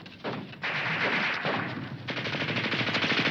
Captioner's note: guns firing